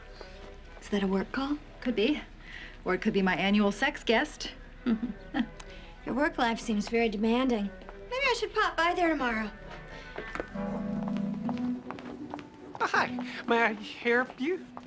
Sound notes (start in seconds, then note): 4.8 chuckles